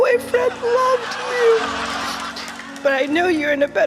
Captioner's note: laughter